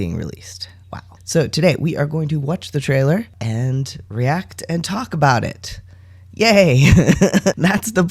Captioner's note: laugh